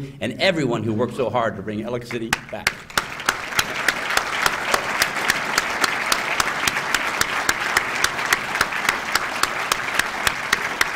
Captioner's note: applause